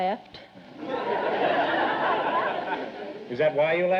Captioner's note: audience laughter